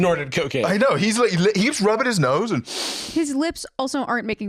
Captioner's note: sniffs